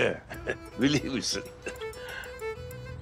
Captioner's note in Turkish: Gülüyor